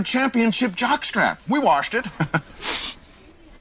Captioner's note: chuckles